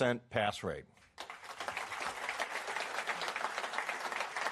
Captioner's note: applause